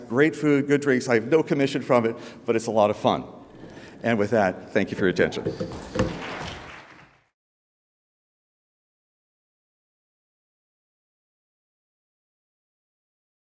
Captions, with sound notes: Great food, good drinks. I have no commission from it, but it's a lot of fun. And with that, thank you for your attention. (audience applauds)